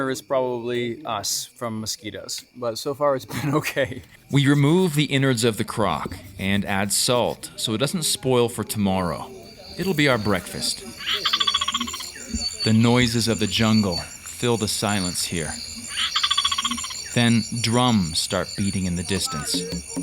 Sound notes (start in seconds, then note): 16.0 bird calling; 19.1 light drumming; 19.8 villagers talking in Lingala